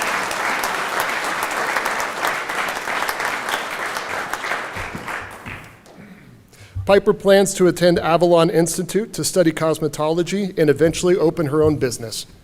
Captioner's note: applause